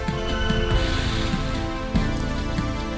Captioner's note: distant roar